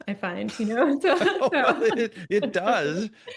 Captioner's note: laughter